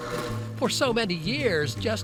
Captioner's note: drill machine whirring